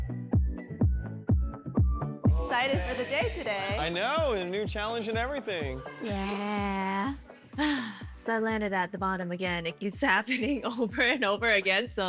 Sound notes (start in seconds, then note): 7.0 sighs